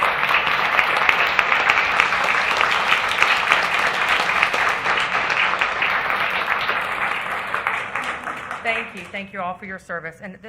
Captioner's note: applause